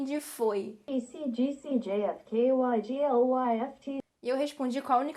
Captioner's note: indecipherable google translator noises